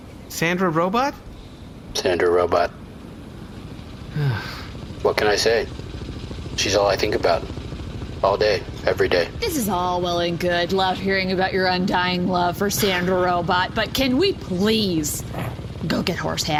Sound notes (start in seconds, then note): 4.1 sighs